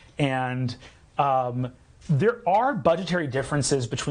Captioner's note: none